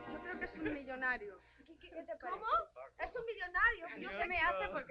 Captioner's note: dancers speaking Spanish